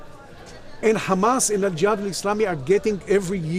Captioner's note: speaking in Arabic